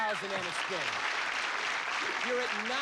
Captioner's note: cheers and applause